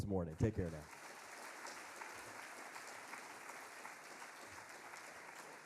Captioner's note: audience applauding